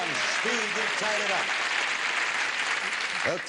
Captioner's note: audience clapping